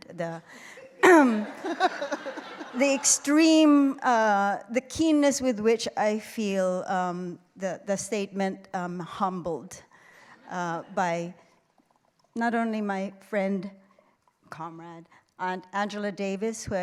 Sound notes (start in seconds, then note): 0.9 clears throat; 1.4 laughter